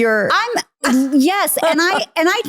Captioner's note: laughing